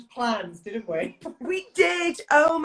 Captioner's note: laughs